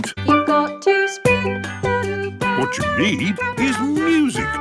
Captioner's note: radio